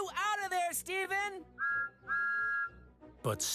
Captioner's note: toot-Toot!